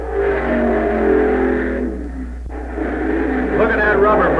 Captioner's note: engine roaring